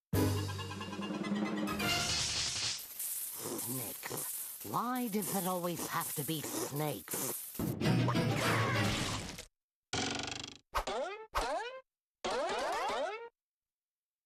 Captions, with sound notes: [hissing] SNAKES. WHY DOES IT ALWAYS HAVE TO BE SNAKES?